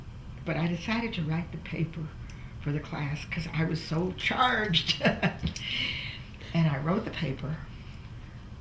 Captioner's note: laughs